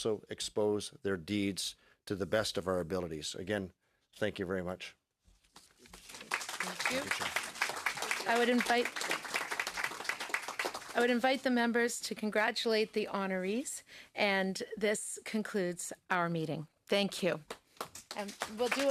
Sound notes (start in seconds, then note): 9.6 applause